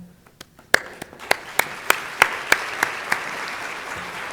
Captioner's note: audience applauds